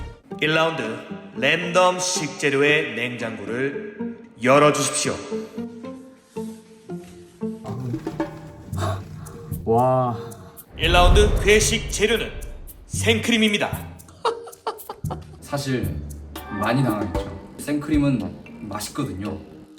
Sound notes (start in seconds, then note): 14.0 confused laughter